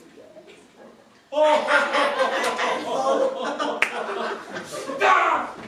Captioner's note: Dracula and Genghis laugh again